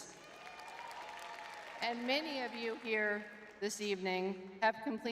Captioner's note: crowd cheering